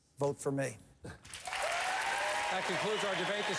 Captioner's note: applause